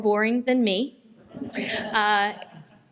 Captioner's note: laughter